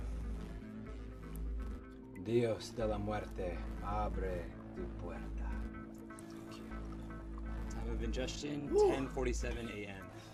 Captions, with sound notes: (Patrick speaking in foreign language) - Thank you. - Time of ingestion, 10:47 a.m.